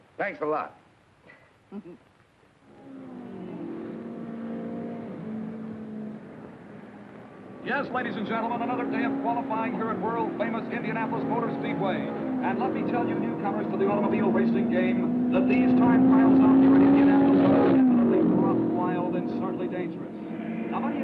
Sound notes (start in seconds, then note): 1.6 Mary chuckling; 3.2 engines revving